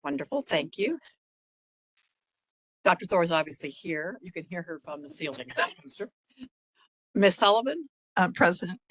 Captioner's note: laugh